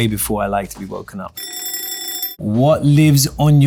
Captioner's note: bell rings